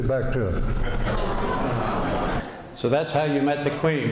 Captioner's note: laughter